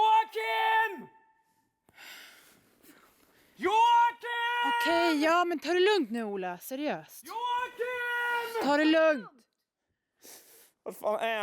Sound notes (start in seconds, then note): 8.3 Ola shouting